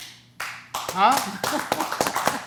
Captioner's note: applause